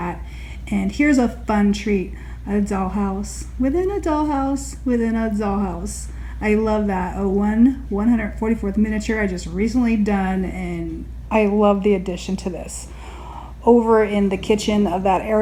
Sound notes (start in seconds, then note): none